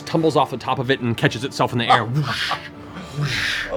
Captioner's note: wingbeats